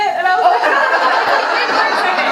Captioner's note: audience laughing